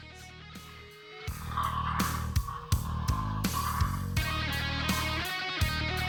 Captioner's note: zombie growling